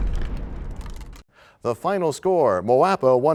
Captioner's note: crashing sound